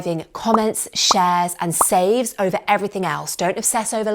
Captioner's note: popping